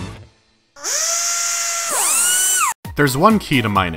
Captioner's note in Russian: звуки работы технического оборудования